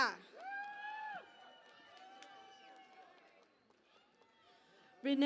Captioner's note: cheering and Applause